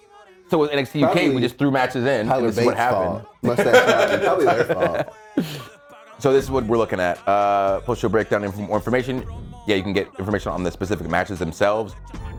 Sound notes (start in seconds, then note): 1.9 laugh